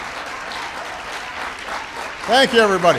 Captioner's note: applause